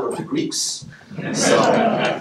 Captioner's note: laughing